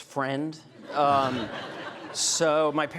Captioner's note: audience laughing